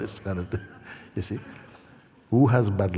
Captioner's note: laughter